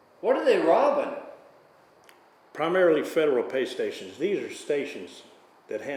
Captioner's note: none